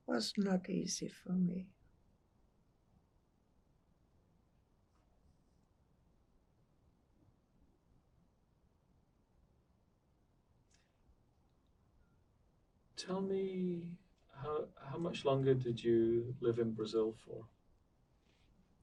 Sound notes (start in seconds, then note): 3.0 pauses 11 seconds